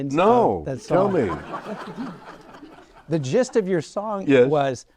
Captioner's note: audience laughing